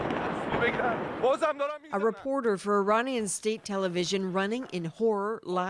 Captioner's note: explosion